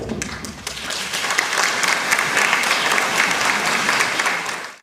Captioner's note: applause